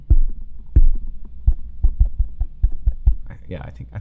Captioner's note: tapping microphone